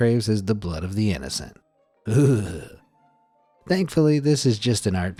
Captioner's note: shudders